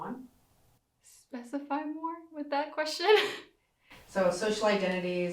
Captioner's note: laughs